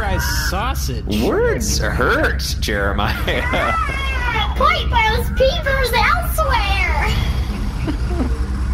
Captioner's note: laughing